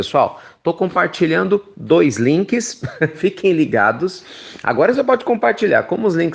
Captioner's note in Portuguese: risos